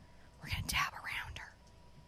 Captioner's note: whispers